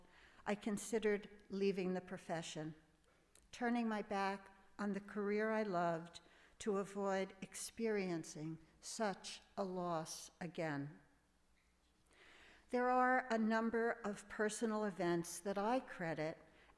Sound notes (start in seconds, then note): none